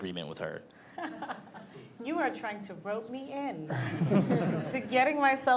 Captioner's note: laughs